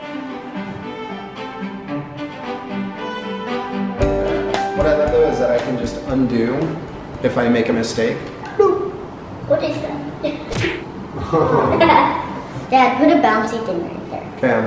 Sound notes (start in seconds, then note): 0.0 bright orchestral music; 11.0 laughs